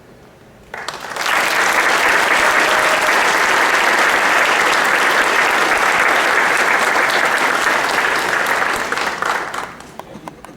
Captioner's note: applause